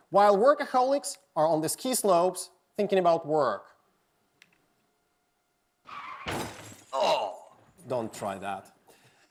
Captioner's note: sound of glass smashing